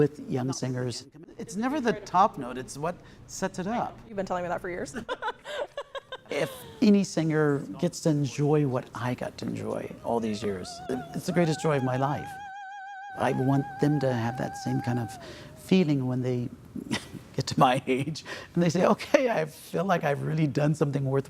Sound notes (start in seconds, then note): 5.0 both laughing; 15.9 laughs